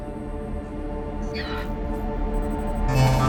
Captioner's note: donkey’s bray answering; tense music increasing